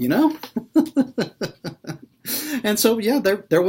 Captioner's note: laughs